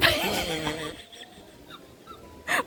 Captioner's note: laughter